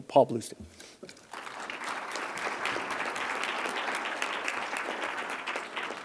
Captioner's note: applause